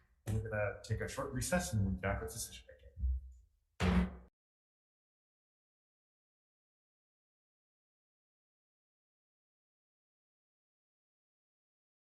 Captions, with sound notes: we're gonna take a short recess and we'll be back with decision making. (gavel bangs) (silence)